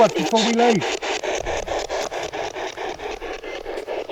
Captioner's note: static ticking